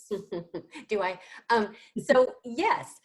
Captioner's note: laughs